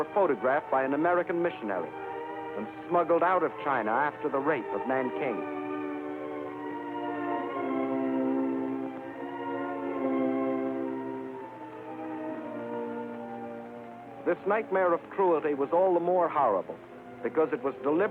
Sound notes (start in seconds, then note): none